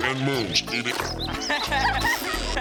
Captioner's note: laughing